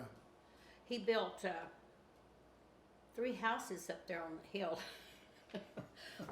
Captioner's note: chuckles